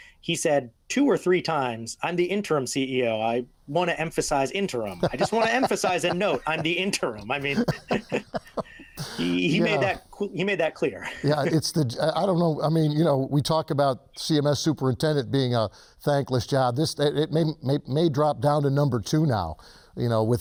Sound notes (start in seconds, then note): 4.8 chuckling; 7.9 both laughing